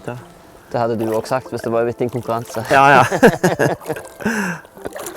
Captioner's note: giggle